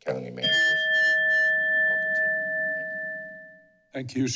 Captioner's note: bell rings